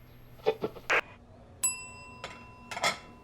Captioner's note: bell dings